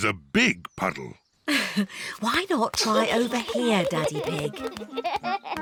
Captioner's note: giggles; chuckles